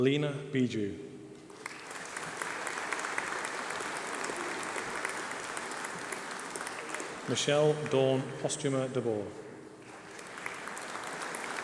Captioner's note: applause